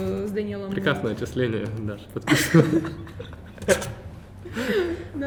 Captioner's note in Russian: смеются